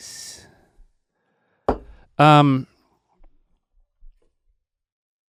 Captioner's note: cup clanking